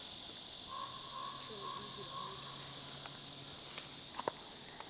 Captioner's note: crow cawing